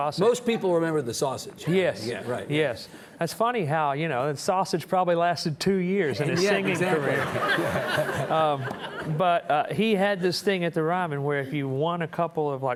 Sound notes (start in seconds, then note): 6.3 audience chuckling